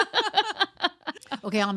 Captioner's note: laughing